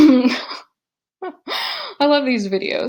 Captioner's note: chuckles